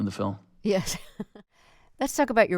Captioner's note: laughter